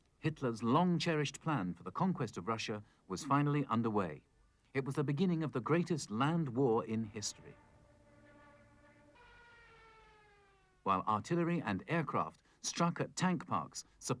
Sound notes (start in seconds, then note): 9.3 airplane flying